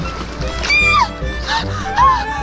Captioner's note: squeels